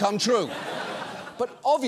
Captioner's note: audience laughs